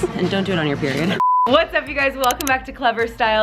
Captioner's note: beeping